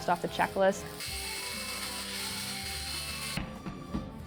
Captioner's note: saw grinding